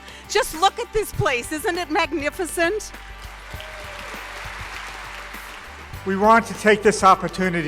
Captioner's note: applause